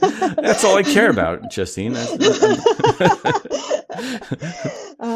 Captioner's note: laughter